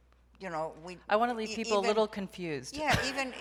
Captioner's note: laughs